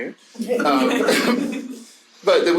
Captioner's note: audience laughing